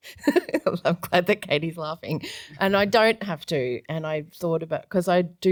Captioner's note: giggles